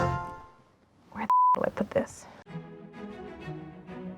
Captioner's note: cheerful tone; beep; upbeat orchestral music